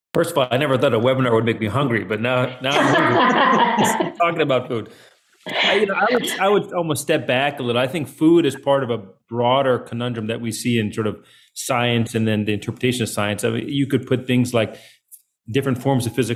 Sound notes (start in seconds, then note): 2.5 laughs